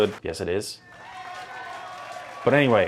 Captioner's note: audience applauds